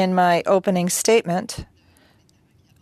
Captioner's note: speaking French